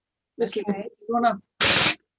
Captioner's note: moves rattle around, which makes a loud and distorted sound